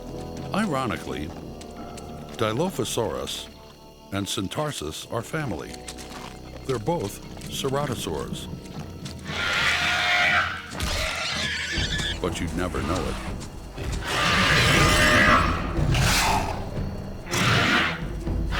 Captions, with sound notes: lronically, Dilophosaurus and Syntarsus are family; they're both ceratosaurs. [Dilophosaurus roars] But you'd never know it. [roars]